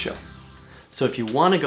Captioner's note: static